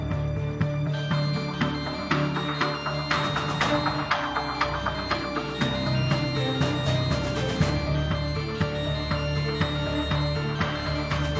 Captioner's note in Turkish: Telefon çalması